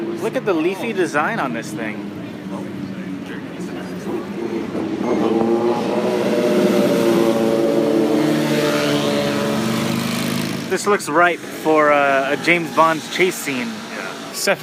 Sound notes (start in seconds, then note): 3.6 motorcycles revving